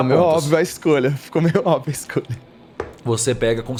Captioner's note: laughs